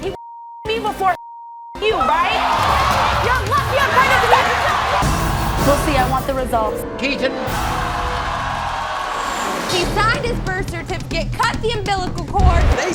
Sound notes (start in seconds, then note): 0.1 beep; 1.9 audience cheers